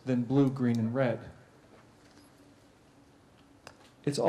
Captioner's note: pause